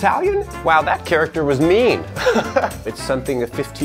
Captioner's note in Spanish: Risas